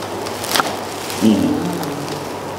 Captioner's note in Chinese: 松了口气